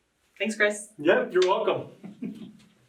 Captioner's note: chuckling